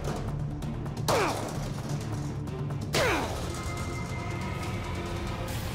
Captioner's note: grunting